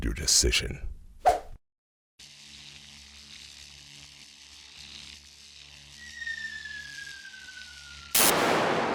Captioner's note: blows Whistle